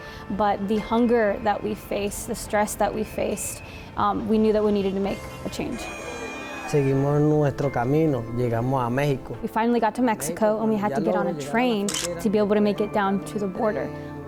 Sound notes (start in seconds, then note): 6.7 speaking foreign language